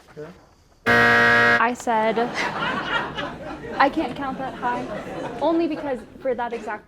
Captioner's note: buzzer and audience laughing